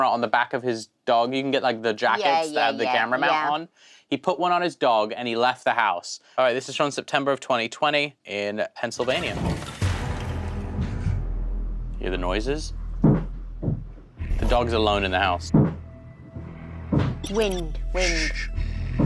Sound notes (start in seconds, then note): 10.3 footsteps receding; 13.0 footsteps receding